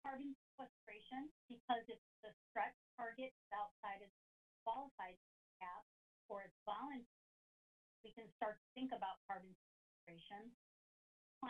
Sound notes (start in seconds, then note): 5.4 audio cuts